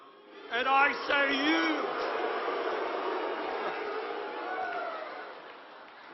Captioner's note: applause